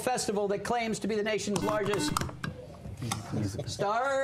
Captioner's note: buzzer